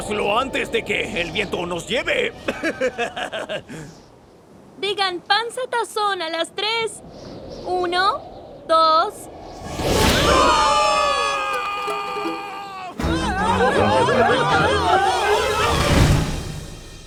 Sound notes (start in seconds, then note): 2.1 laughs; 9.7 wind rushes; 10.0 villains yell; 13.0 villains yelling